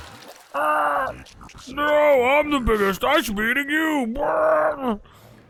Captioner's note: yells; burps